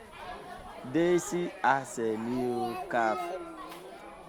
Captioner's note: speaking local language